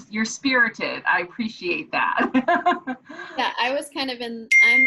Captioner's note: laughs